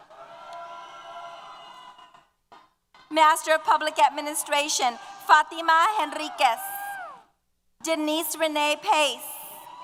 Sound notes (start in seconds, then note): 0.0 cheers